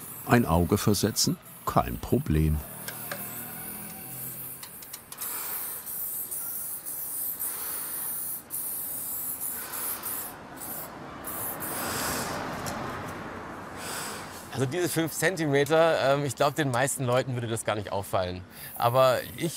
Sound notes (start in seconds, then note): 5.1 spraying noises; 9.6 traffic noise